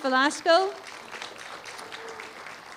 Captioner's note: applause